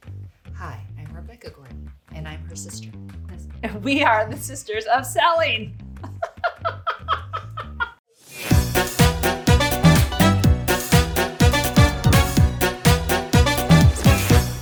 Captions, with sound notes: - Hi, I'm Rebecca Gordon and I'm her sister. - And we are the sisters of selling. (both laugh) (upbeat music begins)